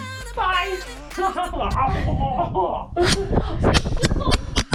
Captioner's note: laughing